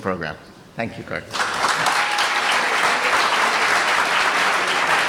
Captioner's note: applause